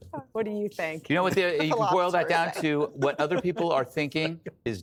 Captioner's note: laughs